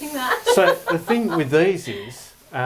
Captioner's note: laughing